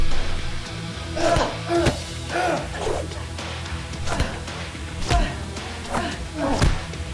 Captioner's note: grunting; smacking; dramatic electronic music